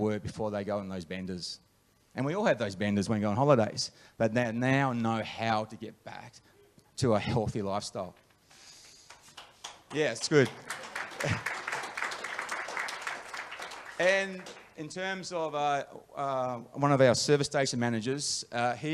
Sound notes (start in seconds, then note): 9.1 audience applause; 10.5 laughs